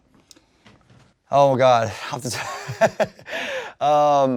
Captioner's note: laughs